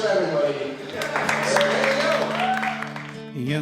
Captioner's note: clapping